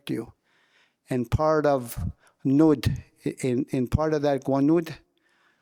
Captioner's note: speaking in</b> <b>Wolastoquey